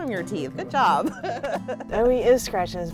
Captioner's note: laughing